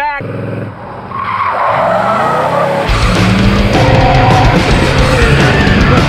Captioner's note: car revs; rock music